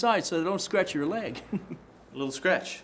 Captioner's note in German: lacht